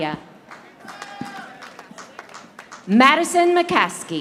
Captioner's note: audience applauding